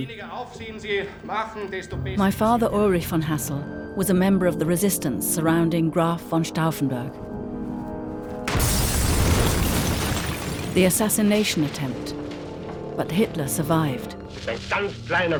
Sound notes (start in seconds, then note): 0.2 speaks in foreign language; 8.5 explosion roars